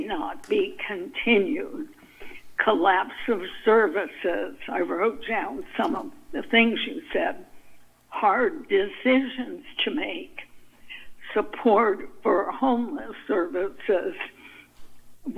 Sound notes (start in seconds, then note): none